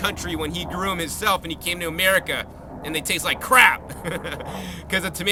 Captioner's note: laugh